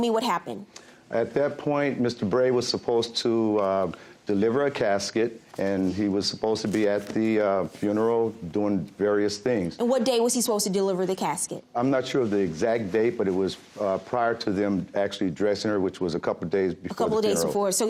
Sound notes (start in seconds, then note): none